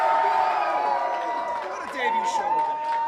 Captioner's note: crowd cheers